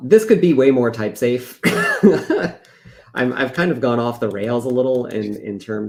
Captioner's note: laughs